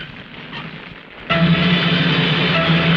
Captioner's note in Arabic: طقطقة النار; موسيقى درامية